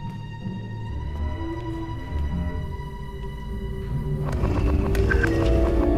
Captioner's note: none